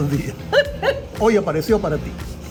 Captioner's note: laugh